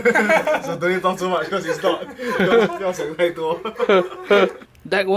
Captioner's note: laughter